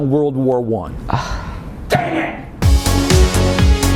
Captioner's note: sigh